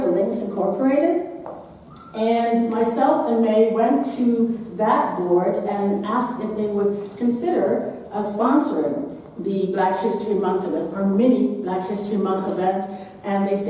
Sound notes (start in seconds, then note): none